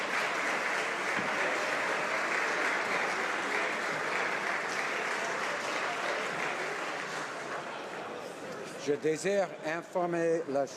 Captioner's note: applause